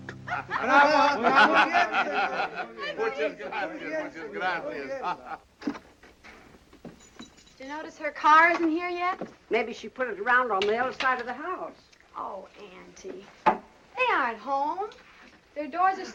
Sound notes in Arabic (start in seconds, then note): 1.9 الصوت المنطوق بالإسبانية